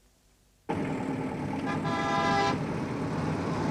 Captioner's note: car horns